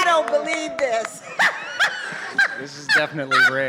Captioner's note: laughs